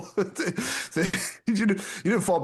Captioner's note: laughing